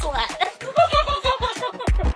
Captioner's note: laughter